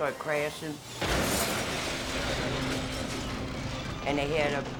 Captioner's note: truck crashes; objects clattering